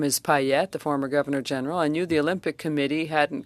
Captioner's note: speaking French